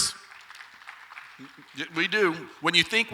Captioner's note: audience applauds lightly